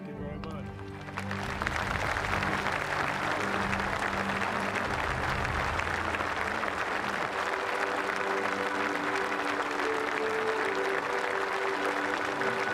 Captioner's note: applause; speaking french